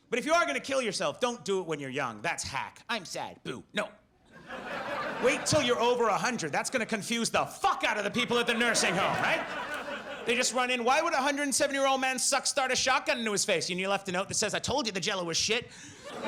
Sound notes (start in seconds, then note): 4.3 audience laughs; 16.0 audience laughs